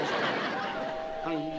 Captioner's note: doorbell ringing